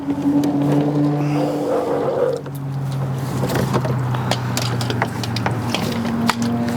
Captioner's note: traffic whooshing; cable whooshing